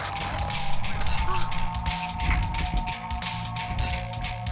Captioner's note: skate board screeches; Allison grunts